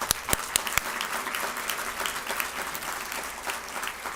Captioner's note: audience applauds